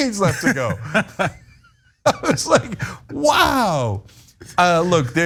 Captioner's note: laugh